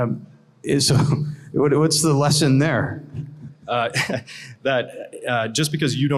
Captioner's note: laughs